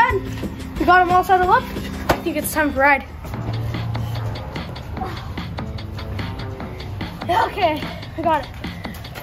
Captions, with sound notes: We got him all saddled up. I think it's time to ride. (upbeat music) (grunt) Okay we got it.